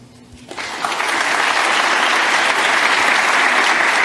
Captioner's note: applause